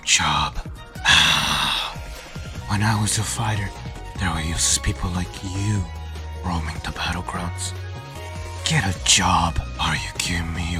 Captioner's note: sigh